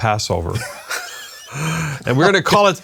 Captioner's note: laughing